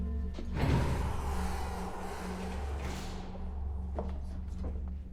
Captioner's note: elevator door whirring